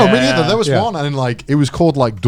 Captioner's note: speaking foreign language